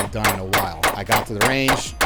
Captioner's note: gun firing